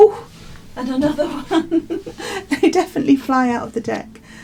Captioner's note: laughs